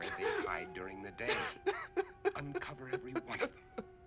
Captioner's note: crying